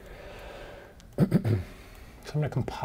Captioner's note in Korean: 기침